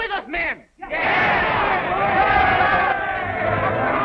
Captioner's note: cheering